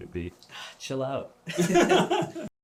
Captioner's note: laughter